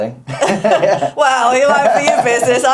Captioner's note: speakers laughing